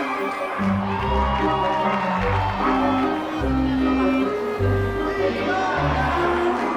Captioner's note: crowd cheers and applauds; team chanting